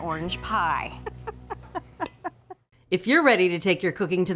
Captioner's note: laughing